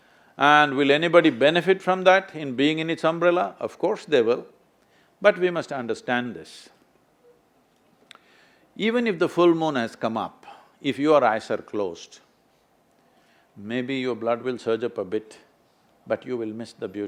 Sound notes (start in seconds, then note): none